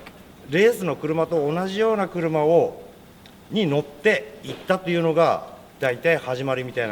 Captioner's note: speaking Japanese